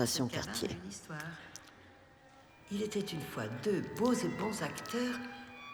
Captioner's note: speaking french